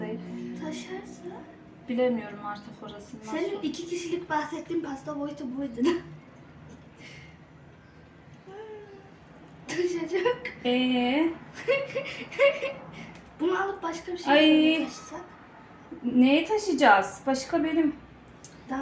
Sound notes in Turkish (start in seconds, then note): 11.5 kahkaha